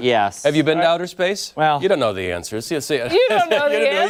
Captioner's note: laughter